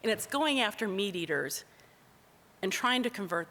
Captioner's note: none